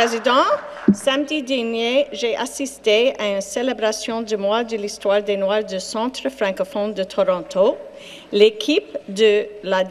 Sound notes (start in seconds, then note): 3.6 speaking French